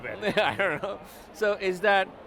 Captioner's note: laughs